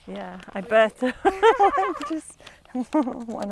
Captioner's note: laughs